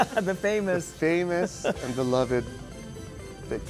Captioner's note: laughs